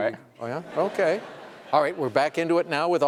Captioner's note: laughter